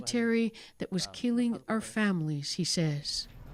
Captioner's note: speaking alternate language